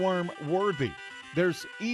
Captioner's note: sound of iPhone ringtone